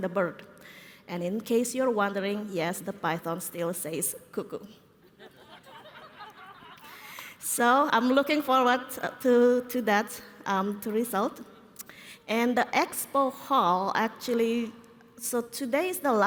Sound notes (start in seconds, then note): 5.0 laughter